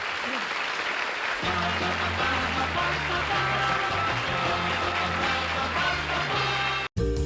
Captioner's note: applause